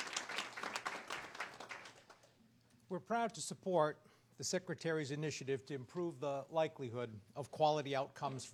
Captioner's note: applause